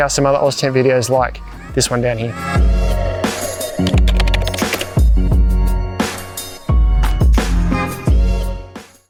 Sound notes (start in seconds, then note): 2.6 bling hip-hop music; 3.8 keyboard clicking